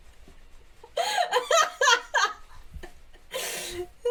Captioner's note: belly laughs